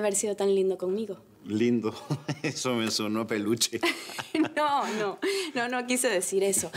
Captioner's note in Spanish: Riendo; Ríe